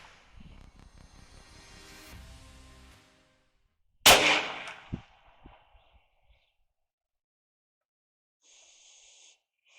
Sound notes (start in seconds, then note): 4.0 loud gun shot